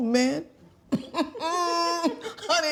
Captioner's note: chuckling